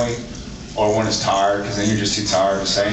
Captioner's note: drawls